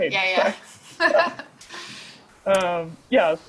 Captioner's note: laughter